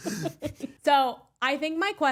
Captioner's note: laughing